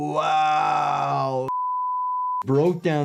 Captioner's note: video beeps